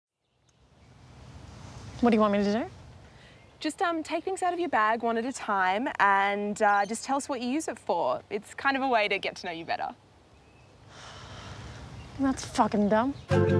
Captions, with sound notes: What do you want me to do? Just um, take things out of your bag one at a time and, ah, just tell us what you use it for. It's kind of a way to get to know you better. (exhales) Thats f*cking dumb.